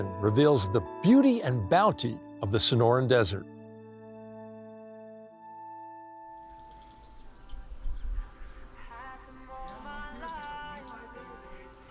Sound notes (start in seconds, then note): 4.8 birds chirping; 4.8 bright music ends